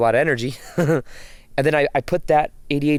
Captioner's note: laughs